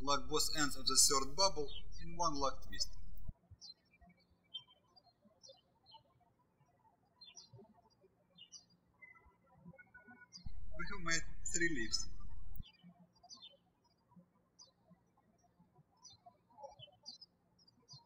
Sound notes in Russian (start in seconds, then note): 4.1 птички щебечут; 13.6 птички щебечут